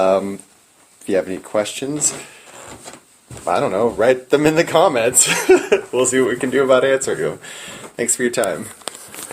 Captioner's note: chuckling